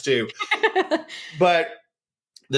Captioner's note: laughter